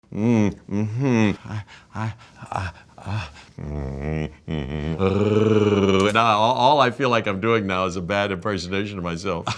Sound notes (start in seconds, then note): 0.1 imitating muffling sounds; 1.3 imitating panting sounds; 3.6 imitating muffling sounds; 5.7 imitating growling sound; 9.3 laughing